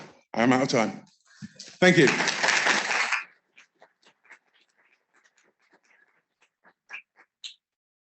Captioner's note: applause